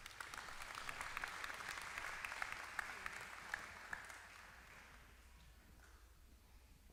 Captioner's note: applause